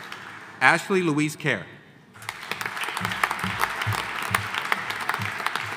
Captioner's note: audience applauding